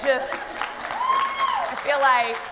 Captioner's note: applause